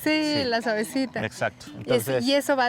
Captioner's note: speaking Spanish